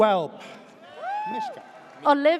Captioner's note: audience cheers